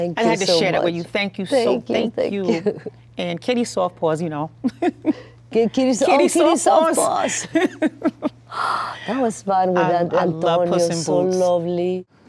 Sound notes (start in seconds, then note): 4.6 chuckles; 7.2 laughter